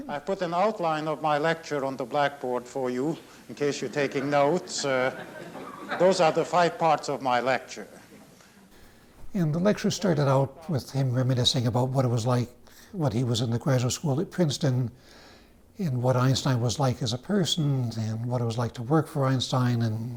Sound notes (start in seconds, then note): 3.8 students laugh